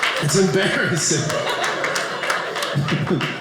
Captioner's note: audience laughing